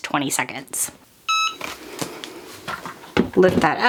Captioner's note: EasyPress beeping